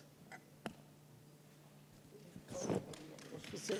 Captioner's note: applause